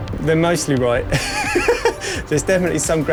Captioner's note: laughs